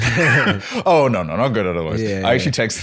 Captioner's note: laughter